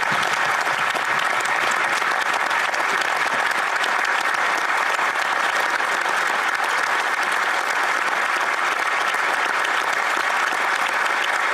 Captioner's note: applause